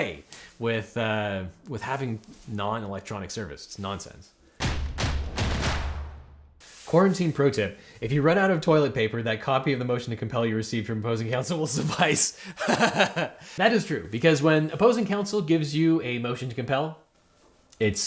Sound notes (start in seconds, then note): 4.6 drums beat; 12.4 host laughs